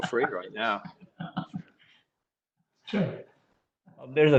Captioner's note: laughs